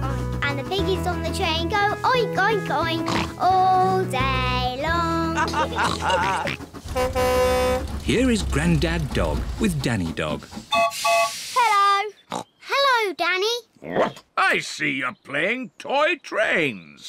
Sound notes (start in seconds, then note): 5.3 all chuckle; 6.0 horn blares; 10.7 toots whistle